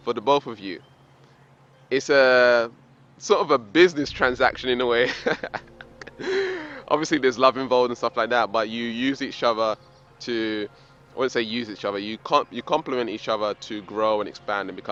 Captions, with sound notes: for the both of you. It's sort of a business transaction in a way. (laughs) Obviously there's love involved and stuff like that, but you use each other to, I don't wanna say use each other, you compliment each other to grow and expand